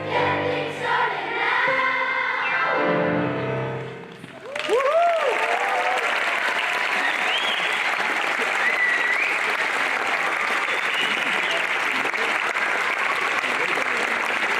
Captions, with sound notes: Get things started now (cheering) (applause)